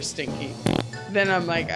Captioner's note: farting sound